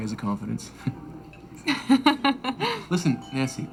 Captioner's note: laughs